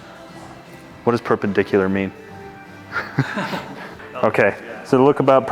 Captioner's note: laughing